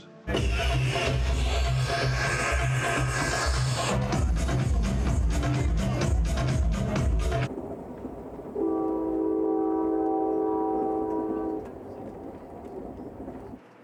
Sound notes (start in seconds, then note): 0.3 trance music; 8.5 train horn blows